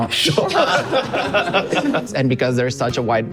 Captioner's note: laughs